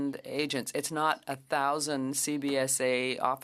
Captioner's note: speaking French